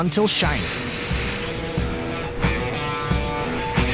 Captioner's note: steel rattling; lively music